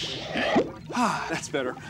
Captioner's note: sighs